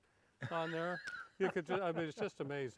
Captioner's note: laughs